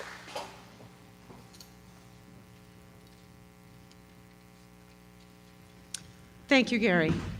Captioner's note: applause